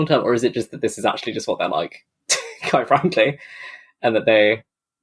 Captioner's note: laughs